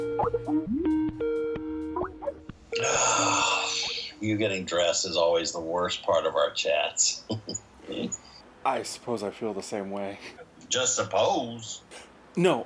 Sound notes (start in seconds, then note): 7.2 chuckles